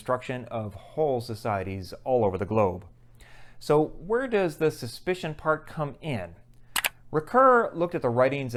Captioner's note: mouse click